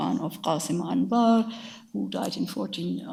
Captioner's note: speaks in a foreign language